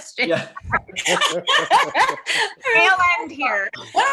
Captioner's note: laughs